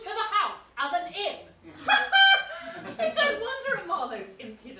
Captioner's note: laughs